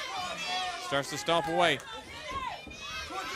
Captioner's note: crowd chatter